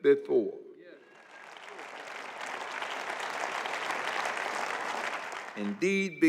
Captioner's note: applause